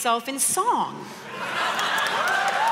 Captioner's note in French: Rires et applaudissements